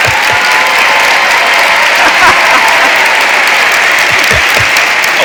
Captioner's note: audience cheering